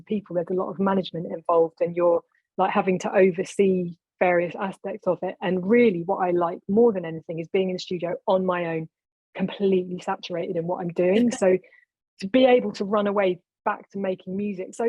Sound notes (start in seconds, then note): 11.2 laughing